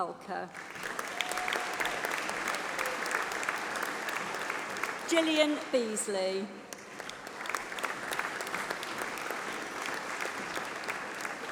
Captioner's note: applause